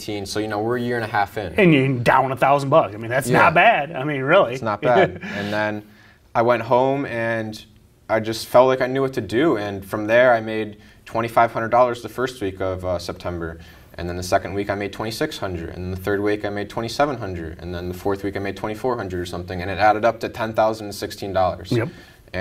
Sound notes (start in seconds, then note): 4.6 chuckling